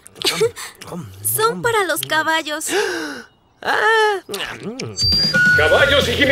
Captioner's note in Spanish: ríe; inhala; mastica